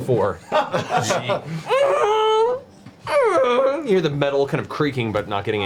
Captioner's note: creaking noise